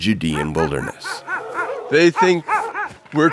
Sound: dogs barking

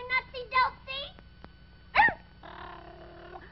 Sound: bark

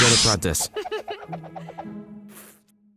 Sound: giggles

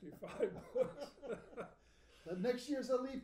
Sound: laughing

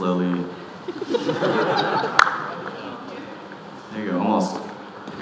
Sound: audience laughing

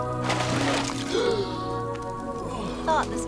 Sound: Tully gasps

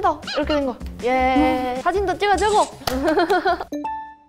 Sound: hehehehe

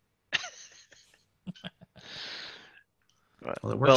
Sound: laughter

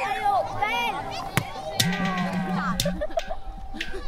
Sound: slap of clay

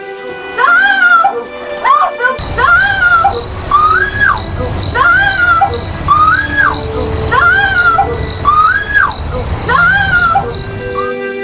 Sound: screaming

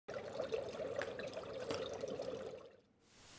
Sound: water bubbling

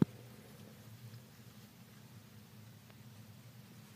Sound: very quiet rustling noises as her bedding gets moved around

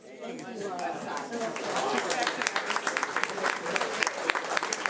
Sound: audience applauding

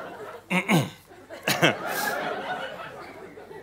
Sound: clears throat

